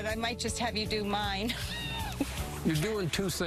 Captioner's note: laughs